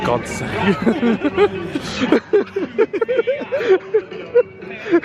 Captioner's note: pair laughing